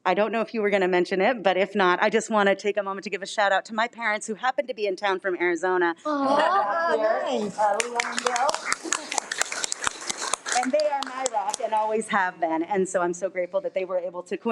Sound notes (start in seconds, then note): 6.8 speaking faintly; 7.4 all applauding